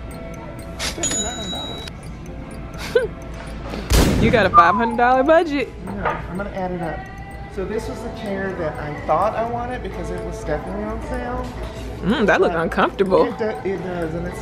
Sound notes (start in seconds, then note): 2.6 snickering